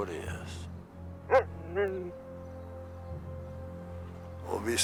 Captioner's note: Buck barking